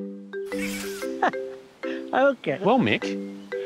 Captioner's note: chuckles